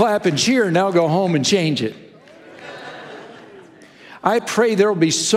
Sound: congregation laughing

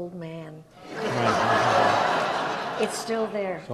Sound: audience laughs

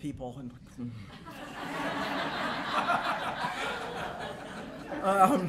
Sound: laughter

